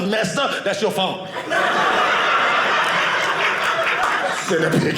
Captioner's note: audience laughing